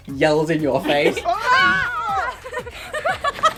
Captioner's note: scream; screams; laughter